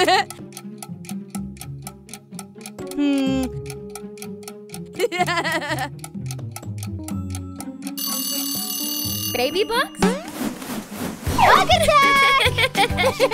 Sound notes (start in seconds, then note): 7.8 timer